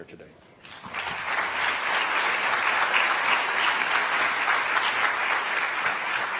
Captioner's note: applause